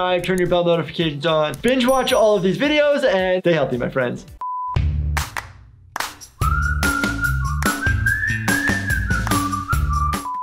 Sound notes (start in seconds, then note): 4.3 beep beeping; 6.0 bouncy music; 9.5 beep beeping